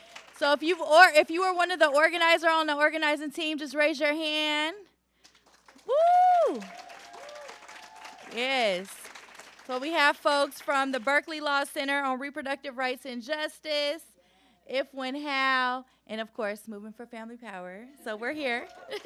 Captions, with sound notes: So if you or if you are one of the organizers on the organizing team, just raise your hand. Woo! [APPLAUSE] Yes. So we have folks from the Berkeley Law Center on reproductive rights and justice. If, When, How. And, of course, Movement for Family Power. So we're here.